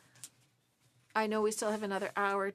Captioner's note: speaking French